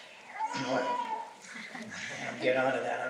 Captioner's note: laughter